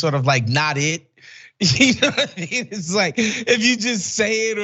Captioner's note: laugh